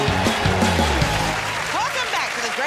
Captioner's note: cheers and applause